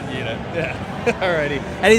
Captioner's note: laughs